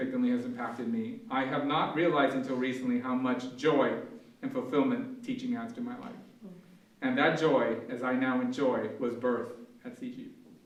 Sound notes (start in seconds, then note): none